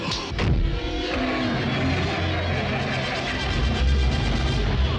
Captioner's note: car engine running